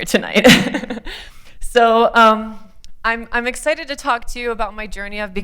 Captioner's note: laughter